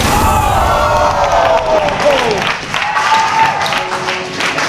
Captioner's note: spectators applauding